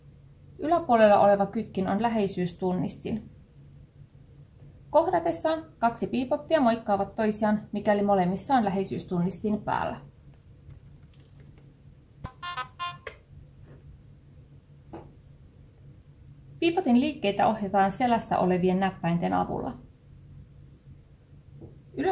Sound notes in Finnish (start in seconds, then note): 12.2 Bee-Bot piippaa